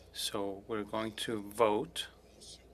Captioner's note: speaking french